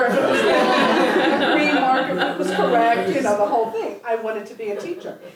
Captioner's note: laugh